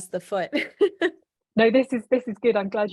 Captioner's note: laughing